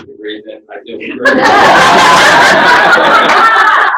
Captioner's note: laughter